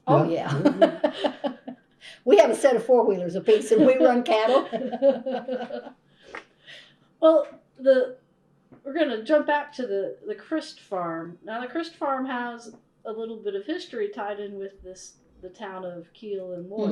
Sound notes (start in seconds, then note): 3.6 laughs; 6.6 laughter